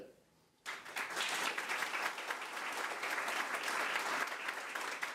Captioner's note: crowd applause